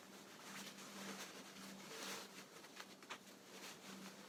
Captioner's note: fabric rustling